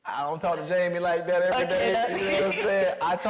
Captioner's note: Mireille laughing